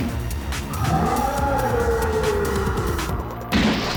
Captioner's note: rooooaaaarrr!!!